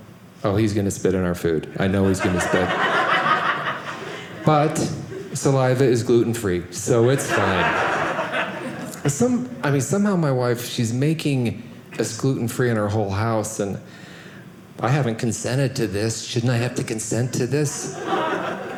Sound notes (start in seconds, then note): 6.8 audience laughing